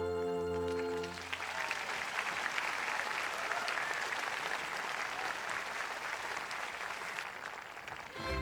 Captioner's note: audience applauds